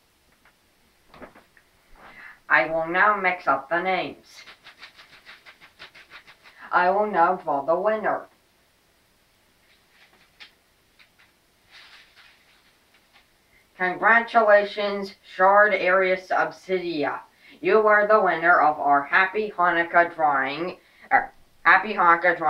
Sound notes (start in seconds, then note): 4.3 paper Shuffling; 8.2 paper rustling